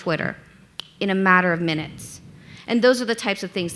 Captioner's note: finger snapping